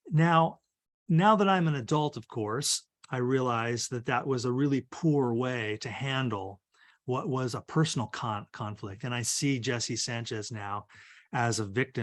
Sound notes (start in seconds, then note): none